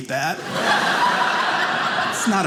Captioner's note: audience laughing